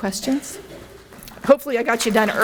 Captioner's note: coughing